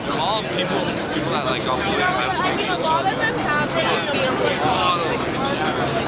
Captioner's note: ambient chatter